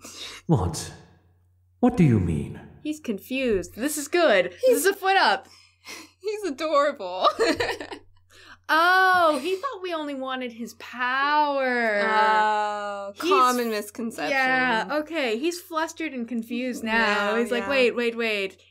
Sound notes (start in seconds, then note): 7.2 laughter